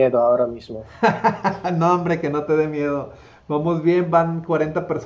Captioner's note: laughter